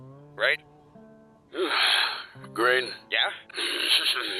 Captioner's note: sigh